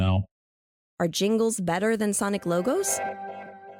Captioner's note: transition Sound